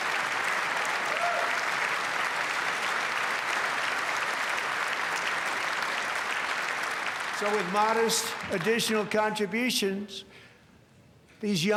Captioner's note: applause